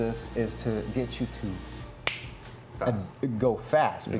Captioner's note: loudly snaps